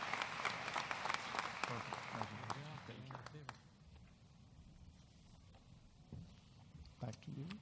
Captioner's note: applause